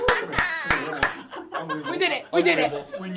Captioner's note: clapping